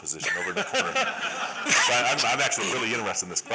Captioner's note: laughter